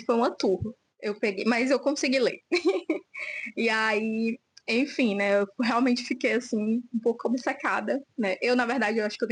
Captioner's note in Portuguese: risadas